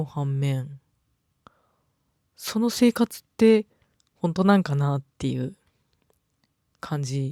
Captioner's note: silence